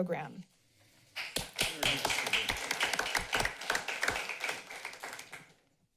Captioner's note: applauding